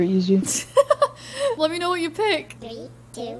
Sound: laughs

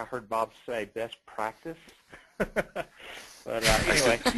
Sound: laughter

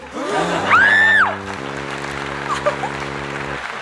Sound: crowd gasps; shrieks; giggles

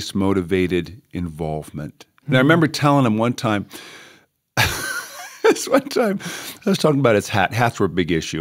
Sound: chuckle

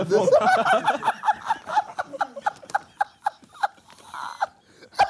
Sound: group chattering

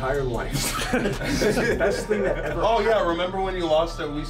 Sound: laugh

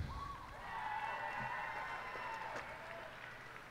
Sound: cheers and applause

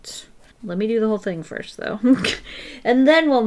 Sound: laughs

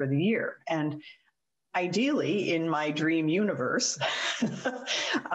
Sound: giggles

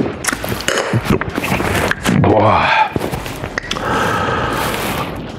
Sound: burps

